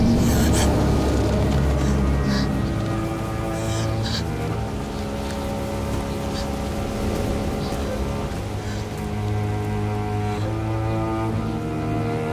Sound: sobs

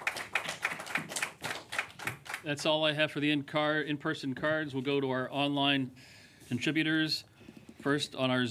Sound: applause

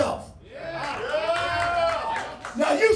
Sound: cheering

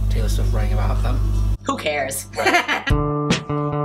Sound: laughs

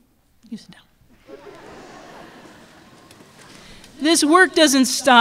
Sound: laughter

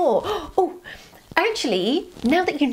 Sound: gasps

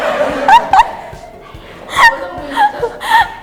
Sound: laughing

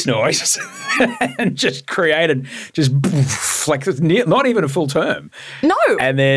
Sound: laughs

